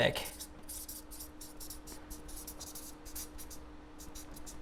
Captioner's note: marker scribbles